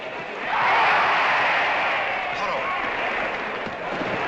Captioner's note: crowd